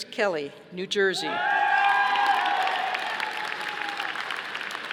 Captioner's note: audience applauding